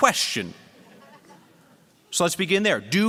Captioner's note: laughter